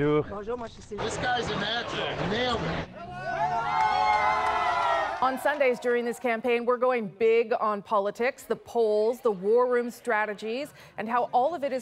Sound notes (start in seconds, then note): 6.1 cheers and Applause